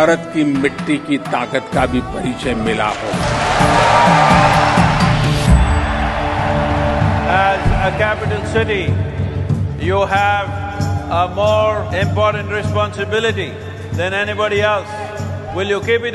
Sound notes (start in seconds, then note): 0.0 speaks in Hindi - not transcribed; 2.4 cheering; 2.9 applause